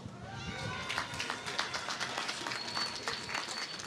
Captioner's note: applause